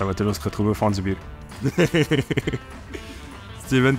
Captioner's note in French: rires